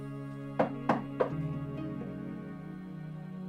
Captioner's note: knocking on door